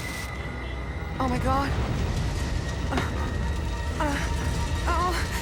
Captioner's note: groans